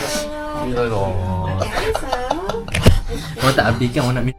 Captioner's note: laugh